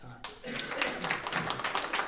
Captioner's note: applause